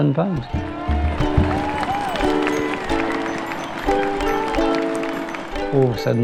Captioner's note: crowds cheering and happy music